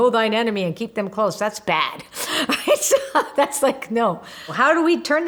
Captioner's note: laughs